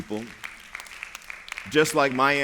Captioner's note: applause